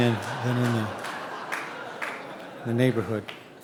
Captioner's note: audience laughing